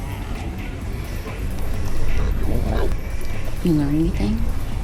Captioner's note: grumbling